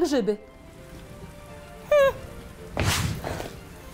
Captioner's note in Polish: dźwięk padającego deszczu